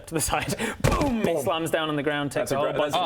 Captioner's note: boom